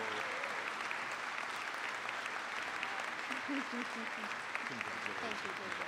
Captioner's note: applause